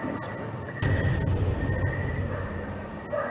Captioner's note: tense sound effect